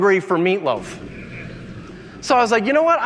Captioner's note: audience laughing